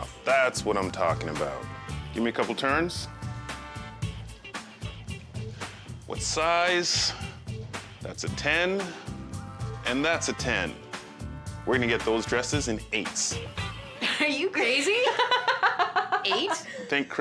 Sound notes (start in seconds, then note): 3.6 soft music; 15.0 chuckles